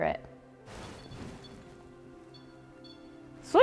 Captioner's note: REM pod beeping